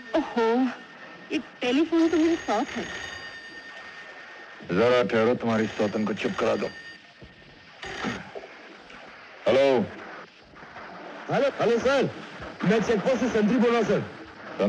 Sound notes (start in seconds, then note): 7.7 phone Ringing